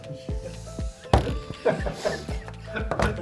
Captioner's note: laughter